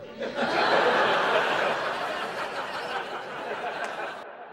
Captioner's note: audience laughing